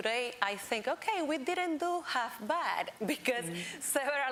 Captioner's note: laughs